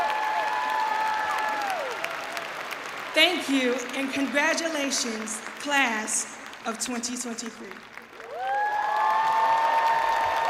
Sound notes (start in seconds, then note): 0.0 cheering and applause; 7.7 cheering and applause